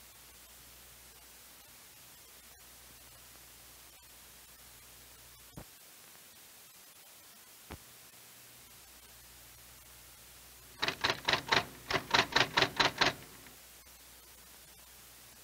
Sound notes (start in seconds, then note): 10.7 typewriter clacking